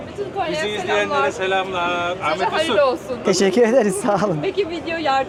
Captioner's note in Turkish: kahkaha